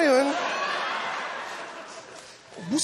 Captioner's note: laughter